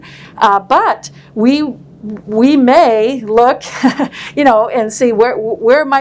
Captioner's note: laughs